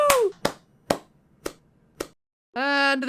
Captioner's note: clapping sounds